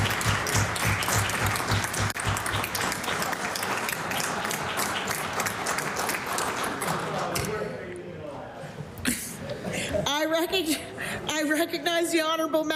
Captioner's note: applause